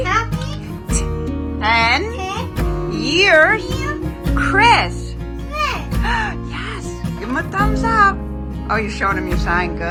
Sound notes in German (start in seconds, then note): 6.0 keucht